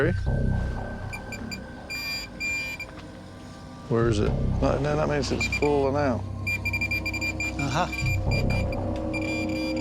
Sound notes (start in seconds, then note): 0.2 beeping; 6.4 beeping; 6.4 rapid beeping